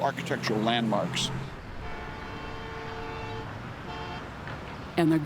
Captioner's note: train horn blaring